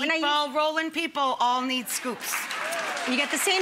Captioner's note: audience applauding